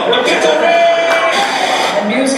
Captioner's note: TV Static